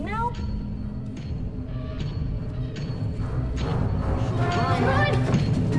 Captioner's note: footsteps tapping and chain rattling